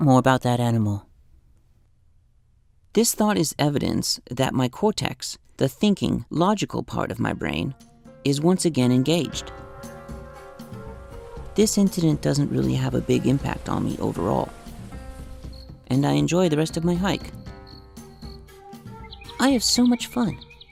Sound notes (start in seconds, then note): 15.0 ocean waves gently crashing; 17.0 crickets chirping; 19.9 birds chirping